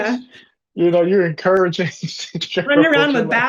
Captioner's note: laughs